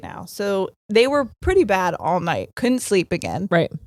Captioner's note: none